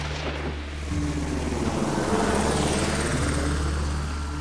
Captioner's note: gunshots firing; helicopter whirring